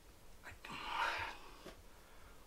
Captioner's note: sighs